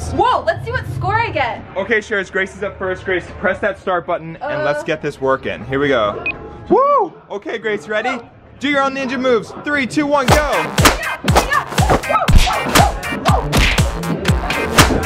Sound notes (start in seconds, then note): 6.4 button beeps; 10.3 making ninja sounds